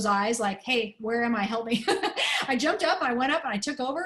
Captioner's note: laughter